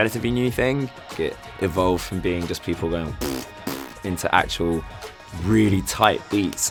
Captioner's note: beatboxes